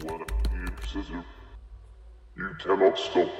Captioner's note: Dark Entity speaking in foreign language